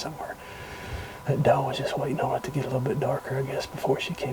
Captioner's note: whispering